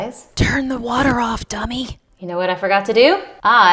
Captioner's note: whispering